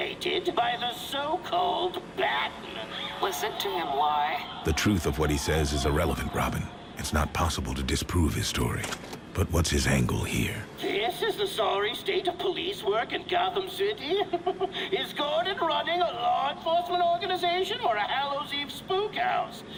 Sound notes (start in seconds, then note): 4.6 audience clamoring; 14.0 chuckles